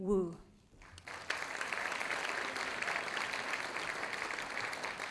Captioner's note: audience applauding